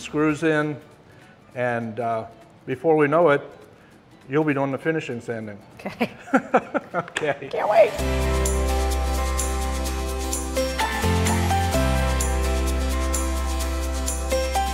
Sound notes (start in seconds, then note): 6.0 laughing; 9.5 upbeat music